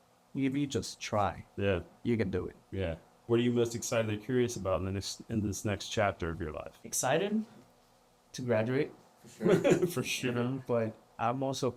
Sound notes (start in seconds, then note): 9.3 laughter